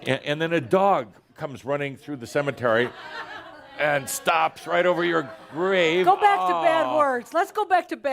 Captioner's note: laughter